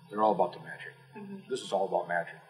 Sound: none

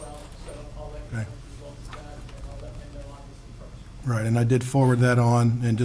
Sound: speaking distantly

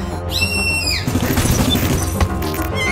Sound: shrieking sound; gunfire

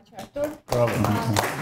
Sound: applause

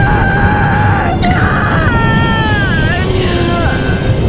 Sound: painful cries

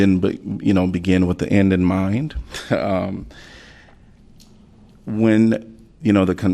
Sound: laughter

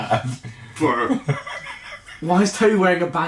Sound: laughing

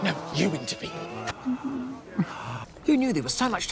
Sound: whimpers

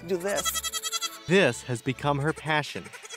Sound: voiceover

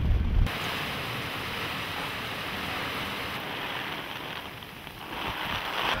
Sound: sounds of heavy rain; sounds of struggle with umbrella

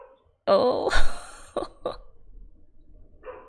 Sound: laughs

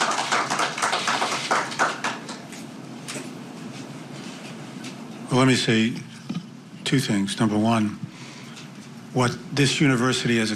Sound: apapplplauausese

